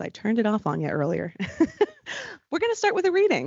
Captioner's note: laughing